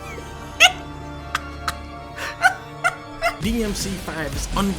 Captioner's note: laughs